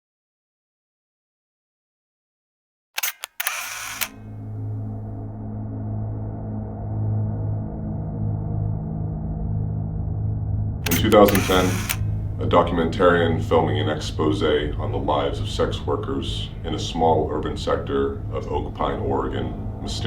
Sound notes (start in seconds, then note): 3.0 camera shutter clicks; 4.2 ominous music